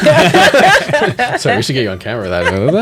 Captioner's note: laughter